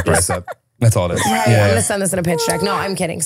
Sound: laughing

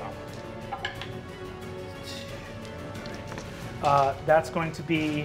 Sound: dice rolling

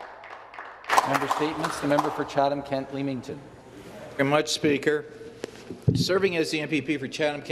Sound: applause

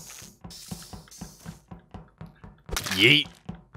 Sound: footsteps; knife stabs

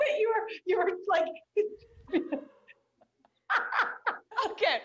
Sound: laughter

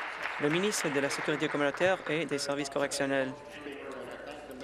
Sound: applause

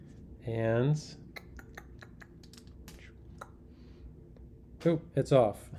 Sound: clicks tongue; chuckles

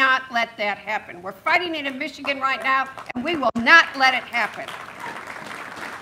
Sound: applause

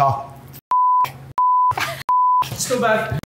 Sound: beep

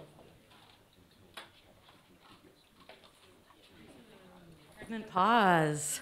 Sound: audience speaking faintly

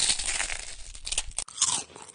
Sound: crunch

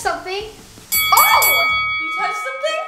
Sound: fighting bell rings

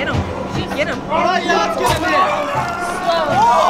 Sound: snarling; screaming; scuffling

